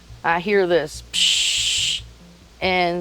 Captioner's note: imitates static crackling